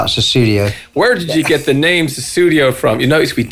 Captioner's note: laughs